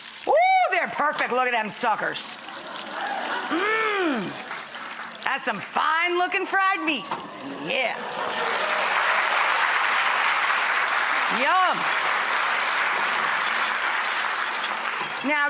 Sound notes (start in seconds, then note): 8.0 audience clapping